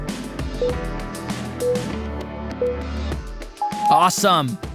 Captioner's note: timer beeping